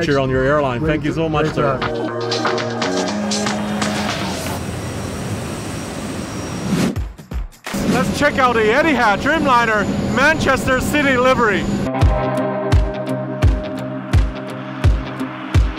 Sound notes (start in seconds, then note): 2.6 upbeat music; 6.8 whooshing; 11.7 upbeat music